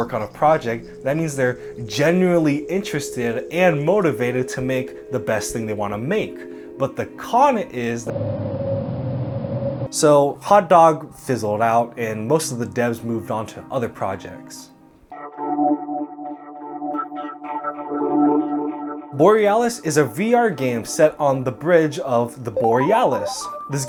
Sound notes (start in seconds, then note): 8.1 droning; 15.2 eerie music